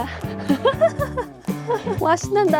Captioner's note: laughter